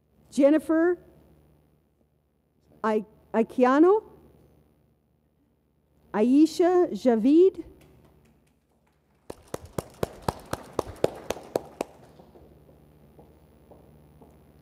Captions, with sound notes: Jennifer Aye-kee-ano. Ayesha Javid. (audience applauds)